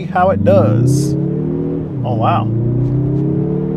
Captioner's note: engine revving